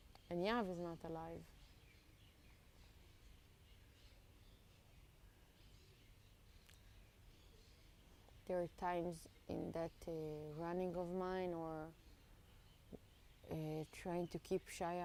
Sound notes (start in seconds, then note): 1.6 pauses 6 seconds